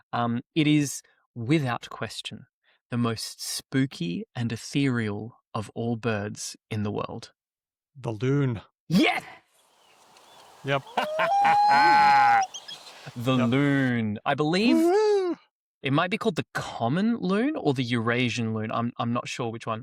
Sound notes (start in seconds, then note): 13.6 laughs